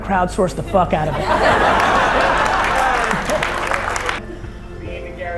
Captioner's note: audience laughing